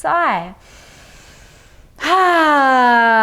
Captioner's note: inhales